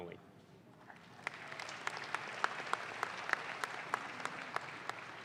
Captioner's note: audience claps